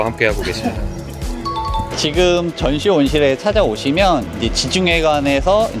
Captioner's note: chiming sound effect